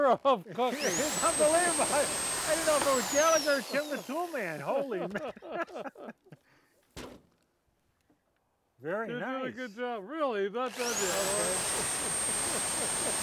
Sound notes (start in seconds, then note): 3.4 all laughing; 3.6 laughing; 6.9 squash landing on table; 10.6 electric saw whirring